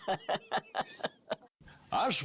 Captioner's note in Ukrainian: сміється